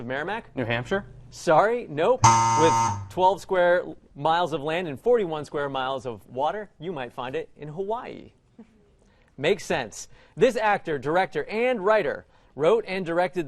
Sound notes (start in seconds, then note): 2.2 error buzzer